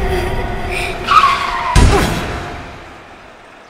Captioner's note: screeching and loud thud